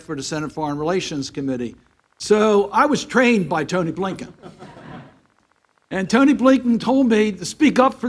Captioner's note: laughter